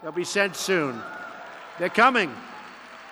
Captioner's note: applause